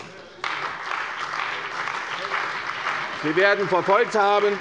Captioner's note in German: Beifall bei der CDU und dem BÜNDNIS 90/DIE GRÜNEN